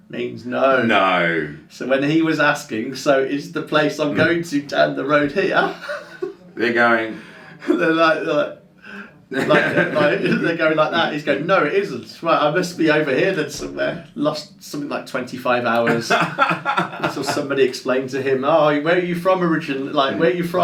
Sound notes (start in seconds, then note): 9.3 laughs; 15.8 laughs